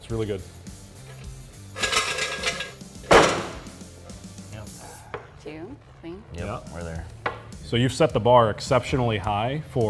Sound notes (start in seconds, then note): 1.7 clattering; 3.0 thud